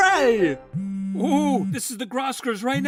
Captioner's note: phone buzzing